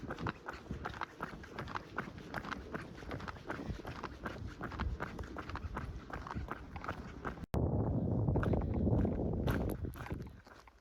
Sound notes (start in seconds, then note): 7.2 wind noise